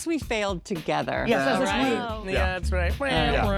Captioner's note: indistinct chatter